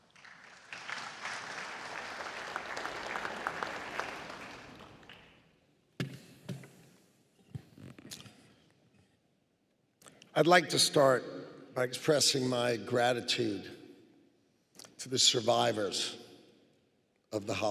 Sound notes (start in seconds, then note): 4.4 applause